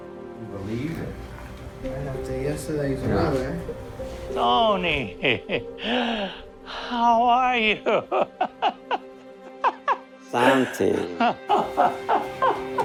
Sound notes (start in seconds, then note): 7.5 laughing